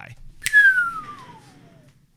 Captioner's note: whistling